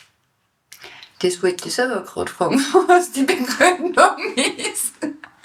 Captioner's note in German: Lacht